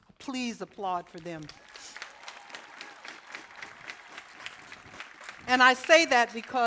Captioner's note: applause